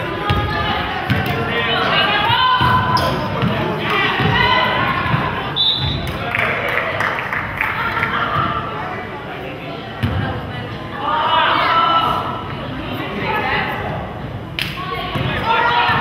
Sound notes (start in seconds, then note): 5.5 whistle blows